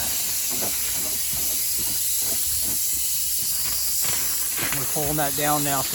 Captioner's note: sprayer hissing